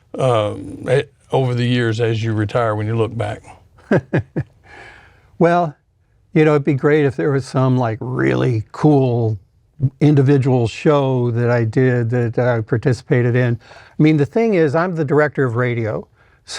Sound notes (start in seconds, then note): 3.8 laughs